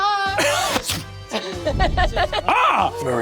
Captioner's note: Zac mimics wind zooming; Brennan yelps